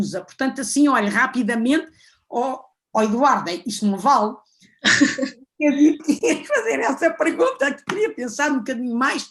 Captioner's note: laughs